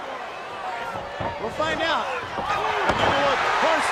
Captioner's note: Ric thudding on ring